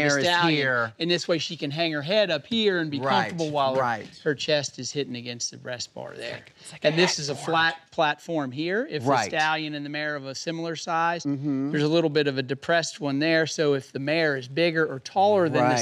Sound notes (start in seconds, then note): 5.8 whispering